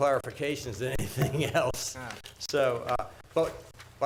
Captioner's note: chuckling